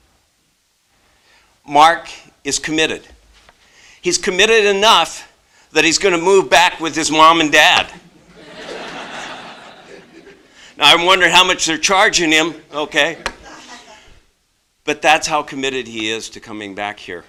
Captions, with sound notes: Mark is committed, he's committed enough that he's going to move back with is mom and dad [laughter]. Now I wonder how much they're charging him, okay, but that's how committed he is to coming back here